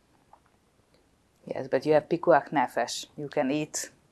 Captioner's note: hebrew